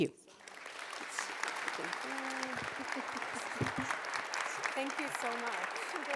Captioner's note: audience applauds